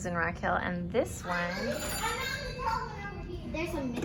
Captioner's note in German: Telefon klingelt